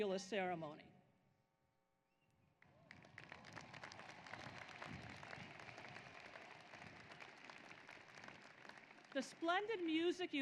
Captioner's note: applause